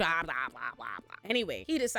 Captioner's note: mimics dragon sound